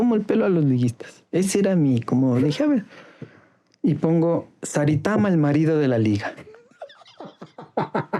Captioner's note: laughs